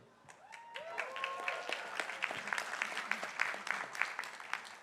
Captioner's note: crowd applauding